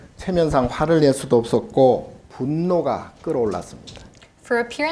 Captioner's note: speaking Korean